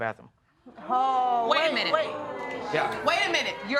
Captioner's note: audience gasp